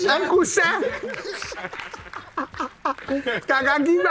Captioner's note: laughs